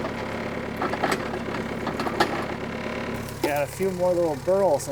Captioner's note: metal clanking